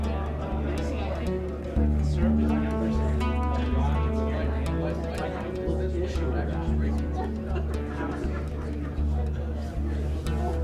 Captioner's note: background conversations